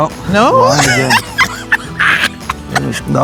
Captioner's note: chuckles